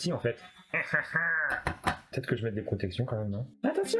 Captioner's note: sadistic laughter from a movie villain